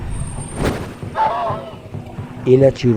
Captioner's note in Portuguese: Vento rápido; Urro de dor